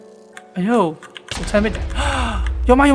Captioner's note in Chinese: 吸氣